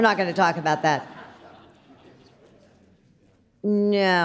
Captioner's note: audience laughs